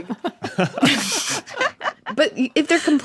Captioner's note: others giggling